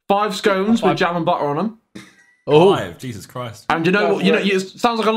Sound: all laughing

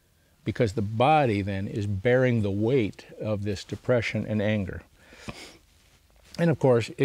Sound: sniffs

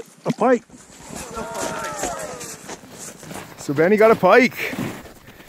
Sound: cheers

